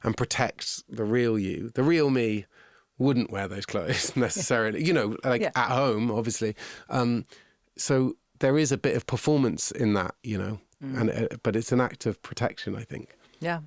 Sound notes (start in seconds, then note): 3.8 laughing